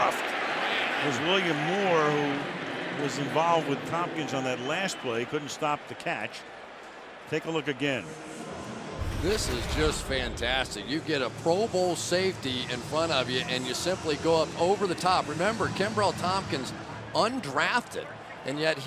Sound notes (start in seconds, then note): 8.7 pa announcement